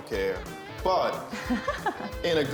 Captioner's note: laughs